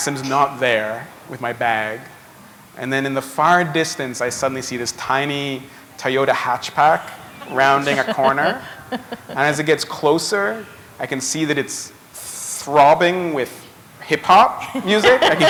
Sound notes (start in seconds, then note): 8.4 chuckle